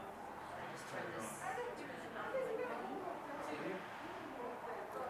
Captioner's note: car engine roaring